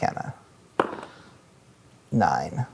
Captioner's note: dice rolling